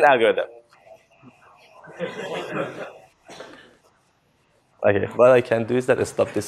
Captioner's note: laughter